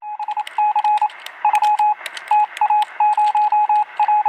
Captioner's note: electronic beepings